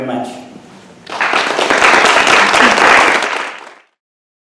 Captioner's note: audience applauds